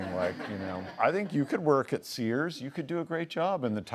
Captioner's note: laughs